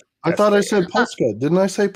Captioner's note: laughing